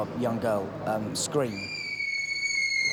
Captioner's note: screaming